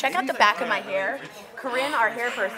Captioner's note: none